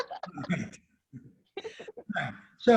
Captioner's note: laughing